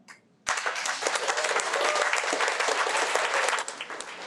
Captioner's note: audience applauding